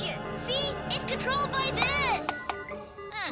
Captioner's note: buttons beep and bop